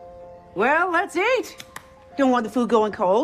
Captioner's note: claps